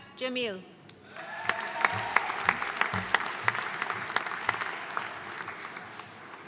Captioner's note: audience cheering and applauding